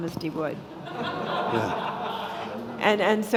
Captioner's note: audience laughing